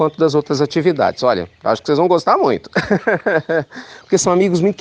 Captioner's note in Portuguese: risos